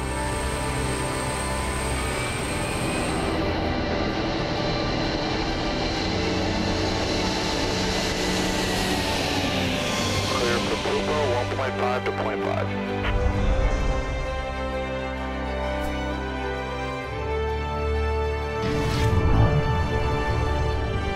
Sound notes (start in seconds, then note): 0.3 airplane engine sound; 8.6 takeoff sound; 10.7 radio message from pilot